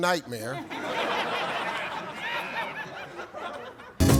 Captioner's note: audience laughs